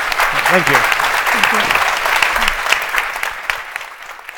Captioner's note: applause